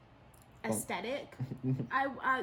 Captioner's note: laughs